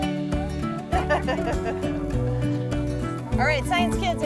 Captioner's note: cheerful music; teacher laughing